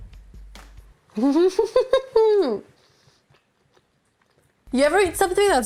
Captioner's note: laughing